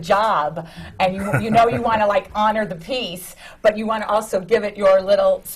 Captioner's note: laughs